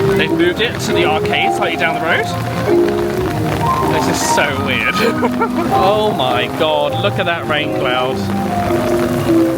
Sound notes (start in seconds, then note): 4.2 laughs